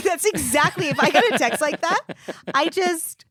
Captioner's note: giggling